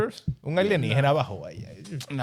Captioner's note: speaking In Foreign Language